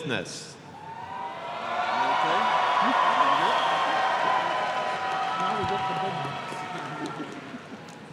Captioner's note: applause